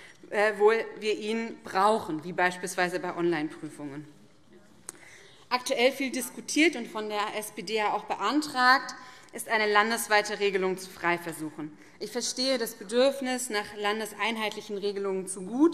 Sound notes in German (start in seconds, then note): none